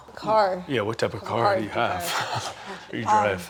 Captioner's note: laughing